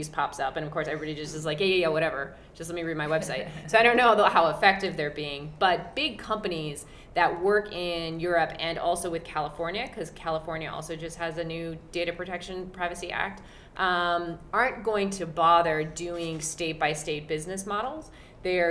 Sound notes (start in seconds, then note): 3.4 laugh